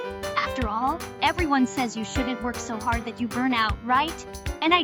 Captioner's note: none